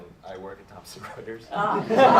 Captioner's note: laughter